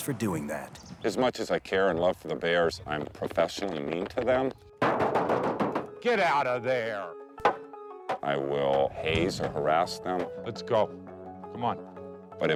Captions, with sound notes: for doing that. - As much as I care and love the bears, I'm professionally mean to them. (hand pounding) Get out of there! (stick whacking) I will haze or harass them Let's go. Come on.